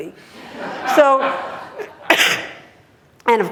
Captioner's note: laughter